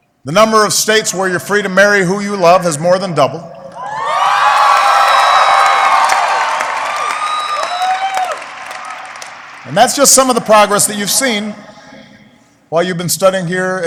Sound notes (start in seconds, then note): 4.2 applause